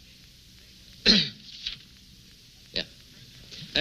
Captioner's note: clearing throat